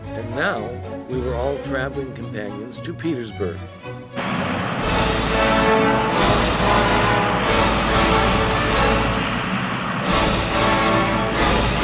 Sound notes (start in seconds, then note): 4.1 jet engine roaring; 4.6 lively orchestral music